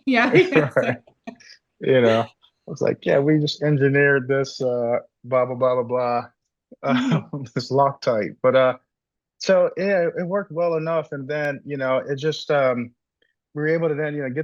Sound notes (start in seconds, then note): 0.2 laughs; 6.8 laughs